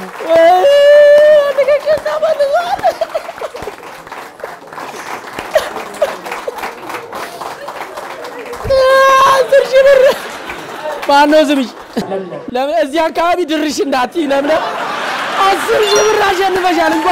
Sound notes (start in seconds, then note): 0.0 applause and scream; 2.8 applause; 2.8 fake sobbing; 14.2 laughter; 15.9 applause